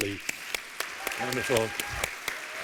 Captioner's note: applause